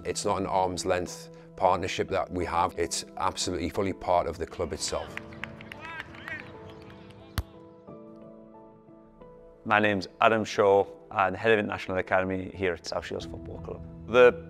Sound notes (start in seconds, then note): 5.0 crowd noise and clapping